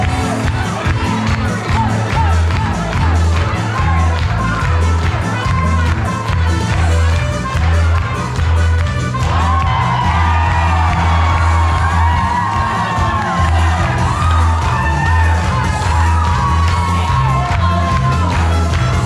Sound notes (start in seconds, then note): 1.2 applause and Clapping